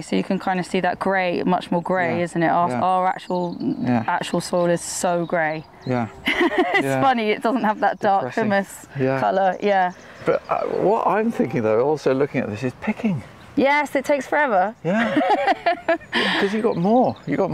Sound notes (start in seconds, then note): 6.2 laughs; 14.8 laughs